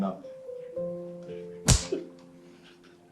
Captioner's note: hand whacks; somber music